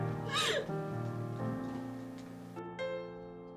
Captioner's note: Nellie sobs